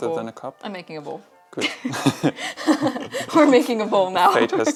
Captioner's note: laughs